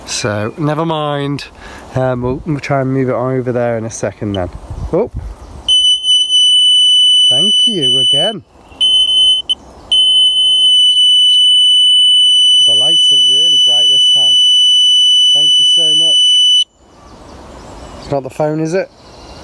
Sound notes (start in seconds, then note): 5.7 beep; 5.7 beeping; 14.4 beeping